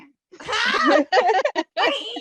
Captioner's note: laughter